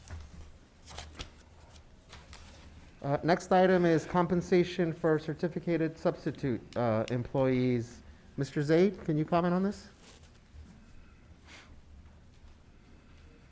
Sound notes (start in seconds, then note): none